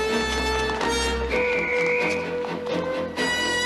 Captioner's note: whistle blows